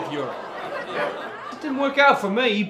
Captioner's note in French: rires